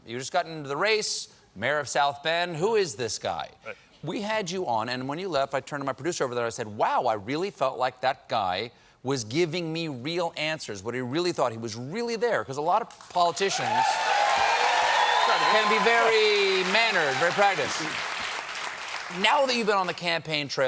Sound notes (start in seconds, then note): 13.2 cheers and applause